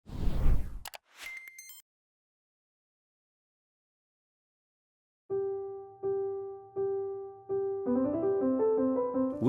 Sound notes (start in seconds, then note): 0.1 air whooshes; 1.1 digits beep; 5.3 bright piano music